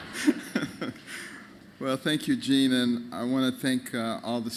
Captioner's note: laughter